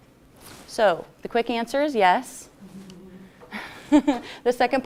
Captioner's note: laughs